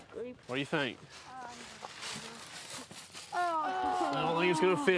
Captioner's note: boys groan